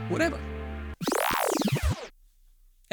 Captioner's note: time warp sound effect